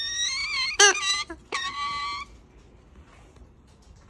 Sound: bird squawking

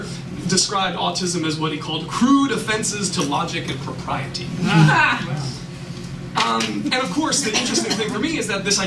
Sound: laughter

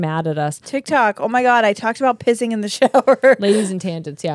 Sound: laughs

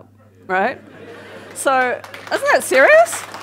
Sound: audience laughs and claps

